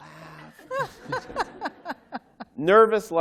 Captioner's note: laughter